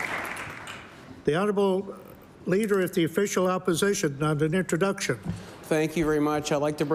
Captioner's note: applause